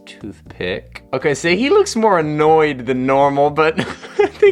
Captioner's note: chuckles